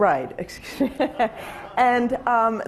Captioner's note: laughing